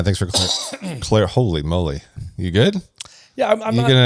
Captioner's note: coughs